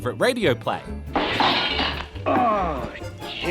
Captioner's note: crash